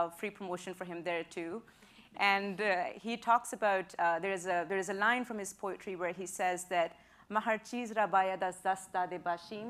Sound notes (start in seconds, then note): 7.2 persian speech